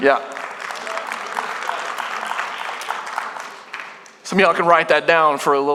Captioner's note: congregation applauding